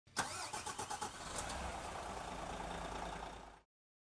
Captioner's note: engine starting